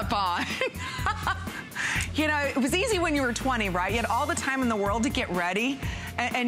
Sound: laughter

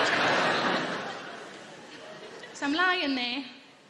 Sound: audience laughing

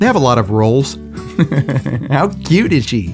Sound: laughs

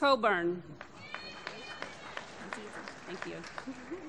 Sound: applause

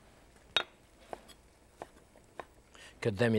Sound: knife chopping

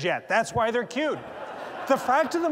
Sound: laughter

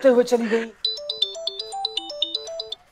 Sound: phone ringing

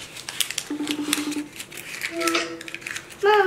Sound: phone ringing

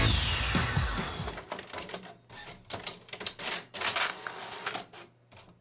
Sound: rock Music; printer Sounds

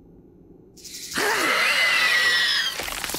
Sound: screeching

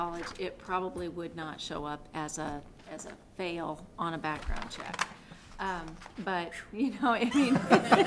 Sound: laughter

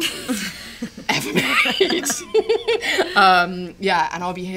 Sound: laughter

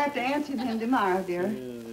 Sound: laughing

